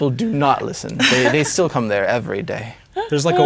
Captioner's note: laughing